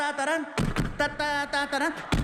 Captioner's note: imitates gun firing